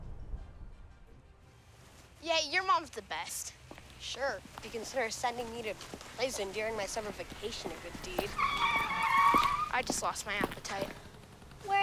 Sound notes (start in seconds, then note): 8.6 tired squealing